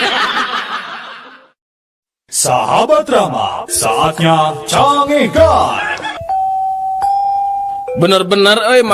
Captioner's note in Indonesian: tertawa